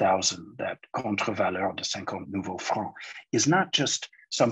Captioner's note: speaking in foreign language